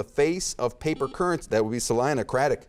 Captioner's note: beeping